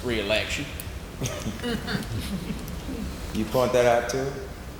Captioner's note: laughing